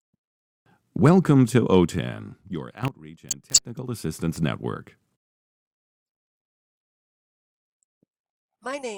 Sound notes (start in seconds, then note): 5.2 silence